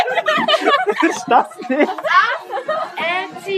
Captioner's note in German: lacht